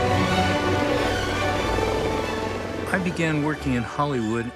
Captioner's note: lively orchestral music; helicopter flying